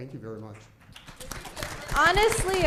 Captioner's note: applause